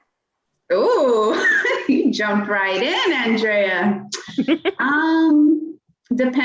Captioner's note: laughter